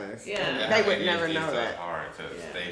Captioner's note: speaking faintly